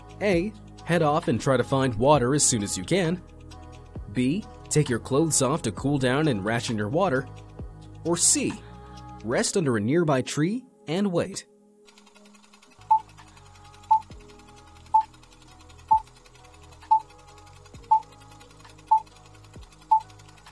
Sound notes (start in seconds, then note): 12.1 projector whirring; 13.8 beeping